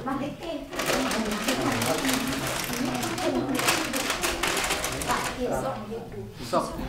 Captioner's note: chattering